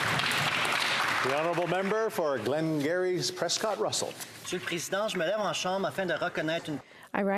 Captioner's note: some Applause